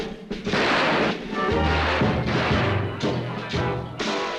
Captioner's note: gunshots